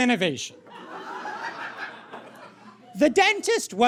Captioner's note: scattered audience cackling